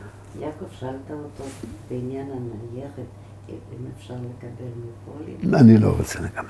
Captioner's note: in Hebrew